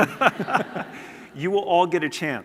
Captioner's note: laughter